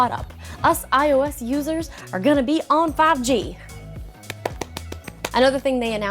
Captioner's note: clapping